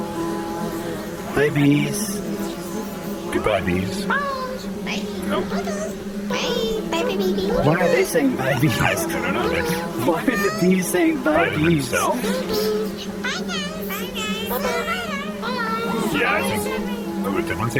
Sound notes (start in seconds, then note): 1.3 whirring noise, bees buzzing; 10.4 laughing